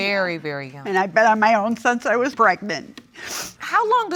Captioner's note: sniffs